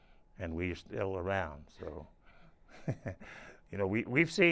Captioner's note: laughs